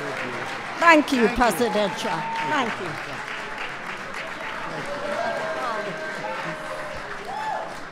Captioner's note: applause